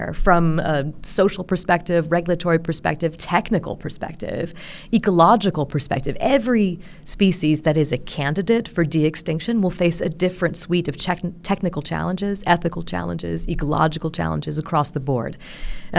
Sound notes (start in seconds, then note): none